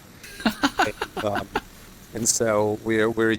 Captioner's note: laughing